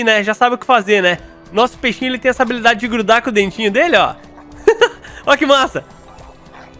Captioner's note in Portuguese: risos